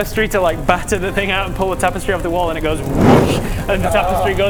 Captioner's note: whoosh